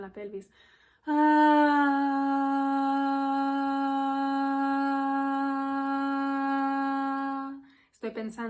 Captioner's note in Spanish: suspiro y tono